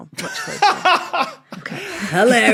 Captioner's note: belly laughs